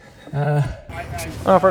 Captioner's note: chuckles